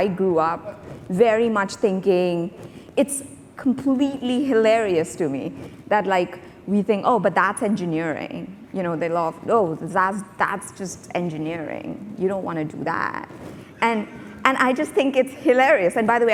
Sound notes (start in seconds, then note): none